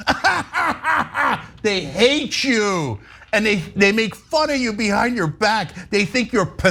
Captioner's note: laugh